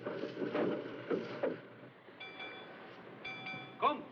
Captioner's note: ship's Bell Ringing